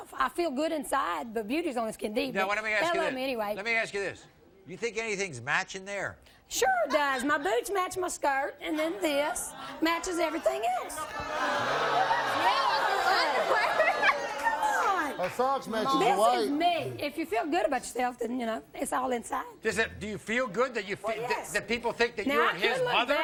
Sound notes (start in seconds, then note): 9.6 audience jeering and booing